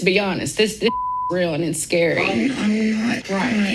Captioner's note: beeping sound